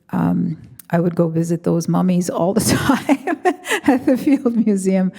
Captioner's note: chuckles